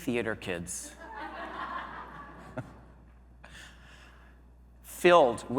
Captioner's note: audience laughing